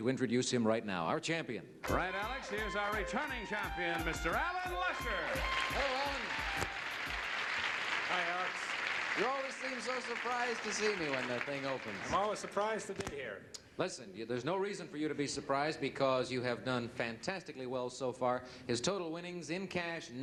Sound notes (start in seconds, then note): 5.7 applause